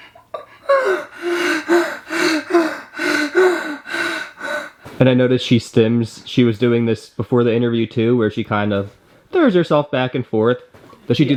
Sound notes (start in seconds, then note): 0.3 panting